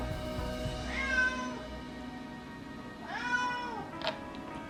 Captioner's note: cat meowing